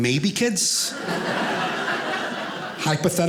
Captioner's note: audience laughing